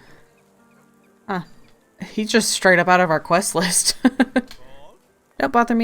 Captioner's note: laughs